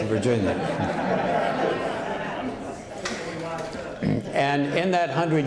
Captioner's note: laughter